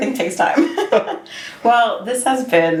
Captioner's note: laughs; Tyler chuckles